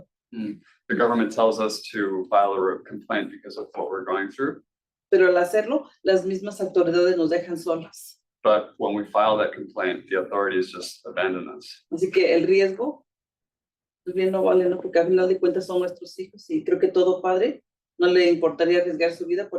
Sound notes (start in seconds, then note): 5.1 speaking Spanish; 12.1 speaking Spanish